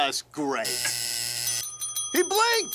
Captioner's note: buzzer, bell ringing